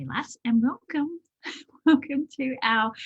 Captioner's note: laughs